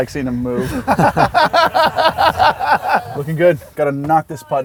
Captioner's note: all Laughing